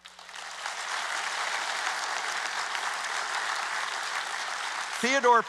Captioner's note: applause